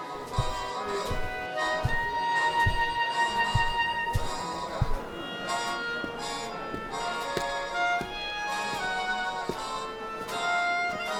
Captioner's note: the ship sounds busy with people carrying on conversation in the distance